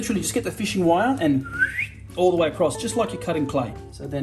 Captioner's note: whistles